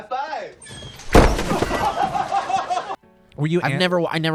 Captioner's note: laughing